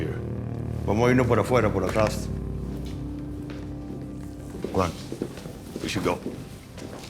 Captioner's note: spanish